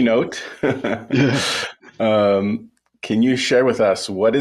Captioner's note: both chuckling